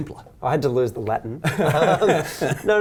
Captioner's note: laughs